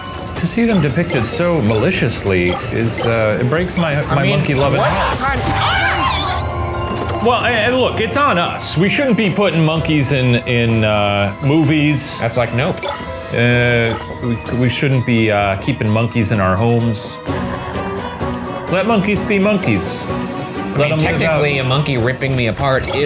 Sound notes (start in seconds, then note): 4.8 Murder Monkey screeching; 5.4 screams